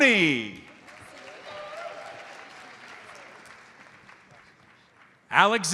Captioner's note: audience applauds